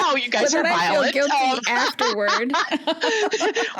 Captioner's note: joking laughter